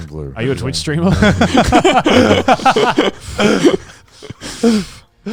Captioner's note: all laughing